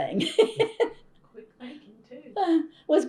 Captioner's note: laughs